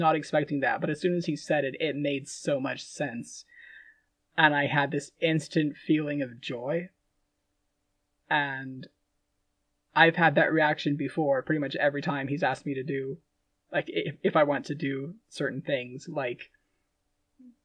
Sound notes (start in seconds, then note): none